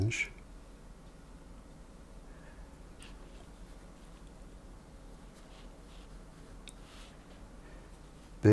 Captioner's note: silence